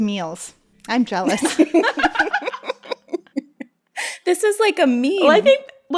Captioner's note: laughter